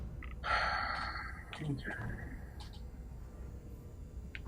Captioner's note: sighing